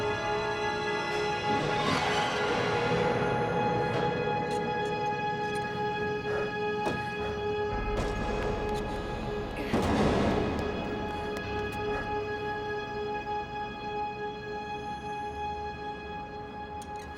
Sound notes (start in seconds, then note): 4.7 window creaks; 8.2 dumpster creaks and thuds